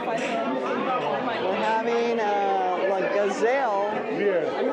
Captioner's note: chatter